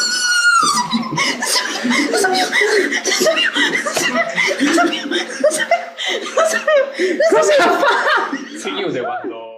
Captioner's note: gibberish and laughter